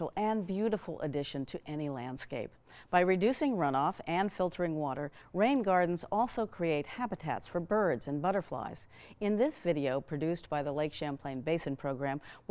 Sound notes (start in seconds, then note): none